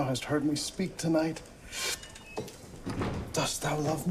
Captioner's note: inhales sharply